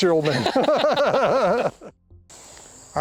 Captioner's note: both laughing